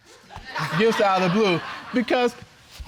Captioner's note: spectators laughs